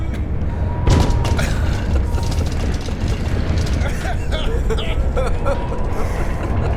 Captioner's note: banging and rattling; laughing